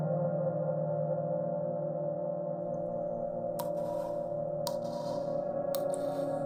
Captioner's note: water drips